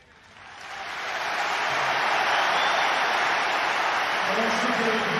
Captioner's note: crowd applauding